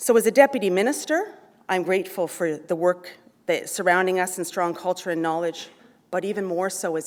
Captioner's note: none